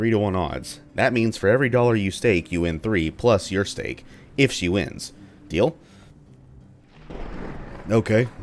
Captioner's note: thunder